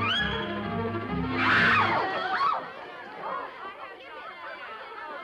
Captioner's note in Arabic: صراخ جماعي